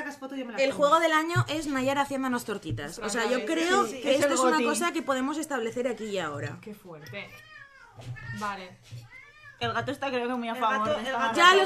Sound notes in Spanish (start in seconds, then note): 7.0 gatos siguen maullando